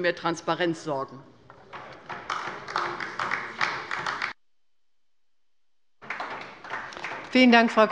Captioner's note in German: Beifall bei der LINKEN